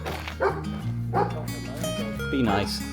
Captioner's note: woof woof woof